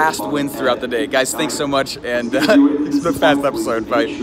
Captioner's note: laughing